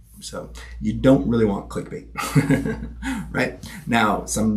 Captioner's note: chuckling